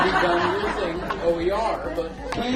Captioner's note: laugh